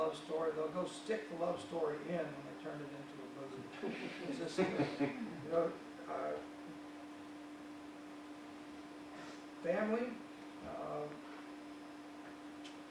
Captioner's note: audience members laugh